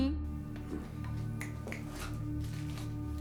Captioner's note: snaps